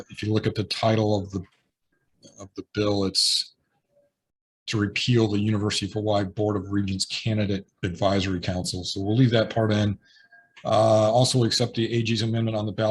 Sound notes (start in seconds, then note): none